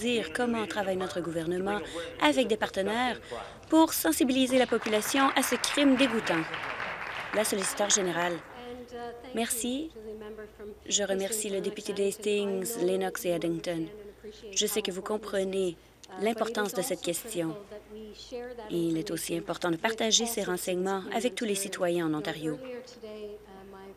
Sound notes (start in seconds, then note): 7.8 applause